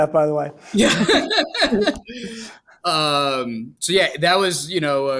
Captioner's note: laughing